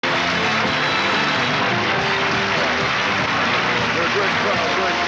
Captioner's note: crowd applauding; lively music